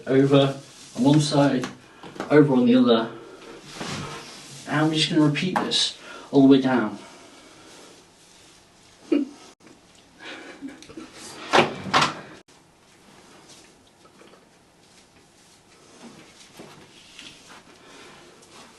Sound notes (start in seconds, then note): 3.1 person breathing; 7.6 rope rustling; 10.2 person laughing; 12.8 rope rustling